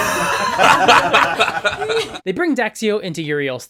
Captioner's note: laughter